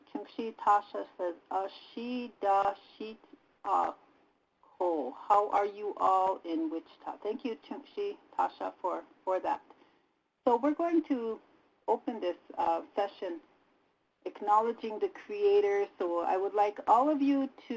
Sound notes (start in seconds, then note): 1.7 native language spoken